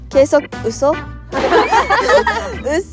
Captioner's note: laughing